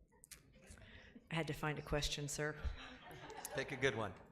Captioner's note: laughing